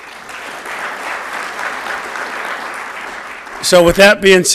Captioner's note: audience applauds